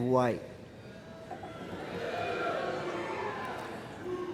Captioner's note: mumbles from crowd